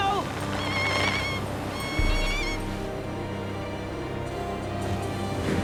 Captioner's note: Captain Flint squawking